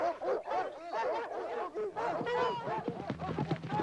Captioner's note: barking